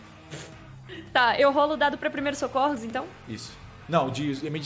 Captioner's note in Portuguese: riso